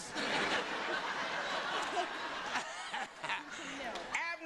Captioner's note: laughter